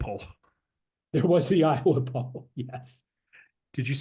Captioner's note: laugh